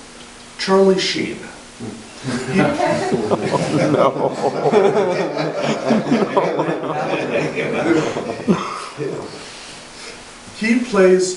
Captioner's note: audience laughing and saying “Oh no.”